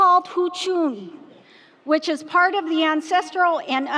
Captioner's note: speaking foreign language